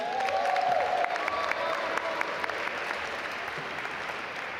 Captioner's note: audience applaud